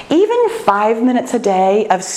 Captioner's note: none